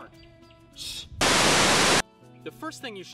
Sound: Static

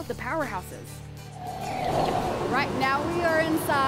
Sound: air whooshing

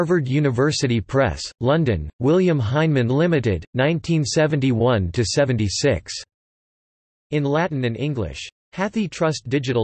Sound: in Latin and English

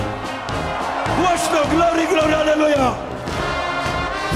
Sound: applause

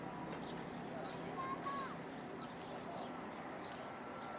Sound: birds chirping

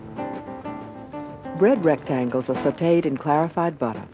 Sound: voiceover

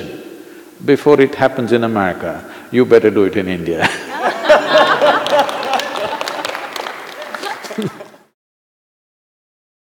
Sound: laughter/Applause

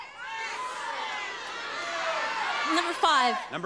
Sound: audience shouting

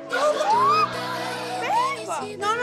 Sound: shrieks

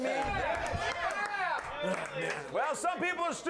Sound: audience cheers

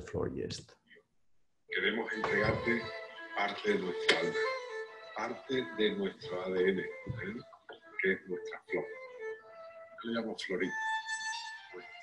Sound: speaking spanish

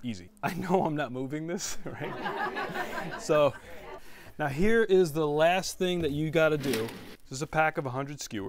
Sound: laughter

